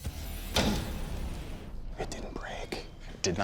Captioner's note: whispers